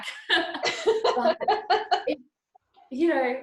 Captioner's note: both laughs